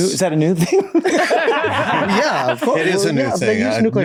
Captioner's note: all laughing